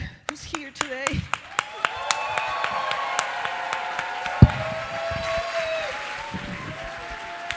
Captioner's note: audience applauding; audience cheering